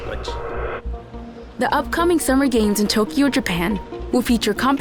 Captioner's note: in English